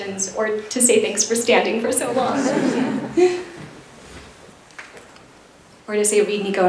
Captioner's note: laughter